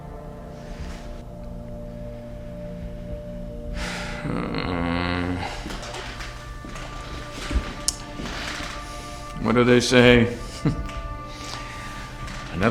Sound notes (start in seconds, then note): 3.8 man sighs; 5.2 footsteps approaching; 10.4 chuckles